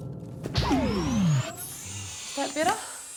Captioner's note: electrical hum, whirring